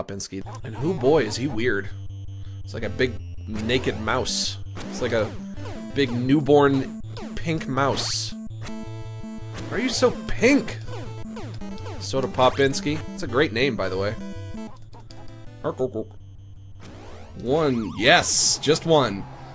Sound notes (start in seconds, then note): 15.5 imitates in-game gibberish